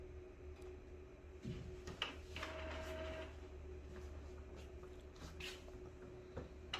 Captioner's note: printer machine sound